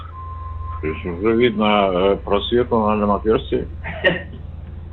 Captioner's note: laughs